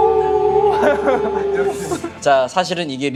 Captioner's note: wonderful quadruple howling